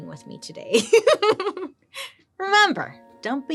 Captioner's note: laughs